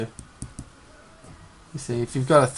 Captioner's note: tapping